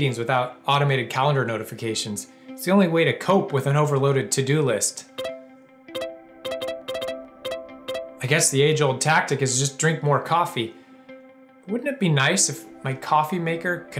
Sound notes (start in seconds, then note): 5.9 notification sounds